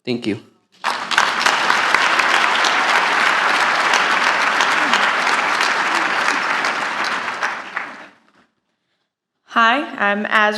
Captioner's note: applause